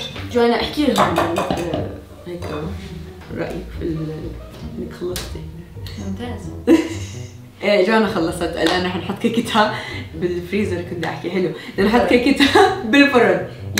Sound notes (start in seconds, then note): 6.6 laughs